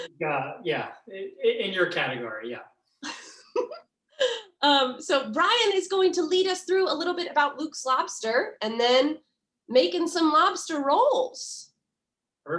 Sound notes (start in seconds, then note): 0.0 laughs; 3.0 laughs